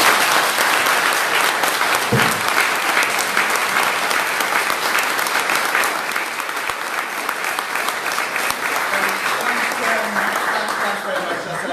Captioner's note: applause